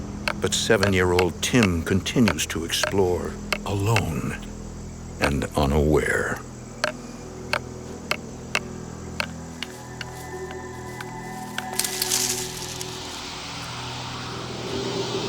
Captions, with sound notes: But seven year old Tim continues to explore alone and unaware. (rhythmic tapping) (leaves rustling)